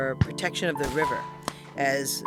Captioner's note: cannon Shots